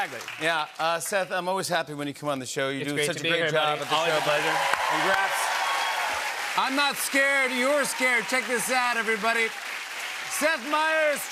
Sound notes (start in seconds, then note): 4.2 cheers and applause